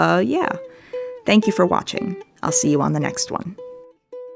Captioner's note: none